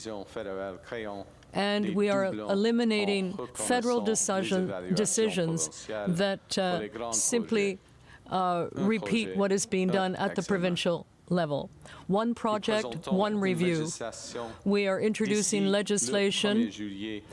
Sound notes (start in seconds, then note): 0.5 speaking French